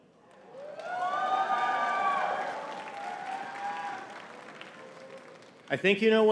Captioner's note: audience cheering and clapping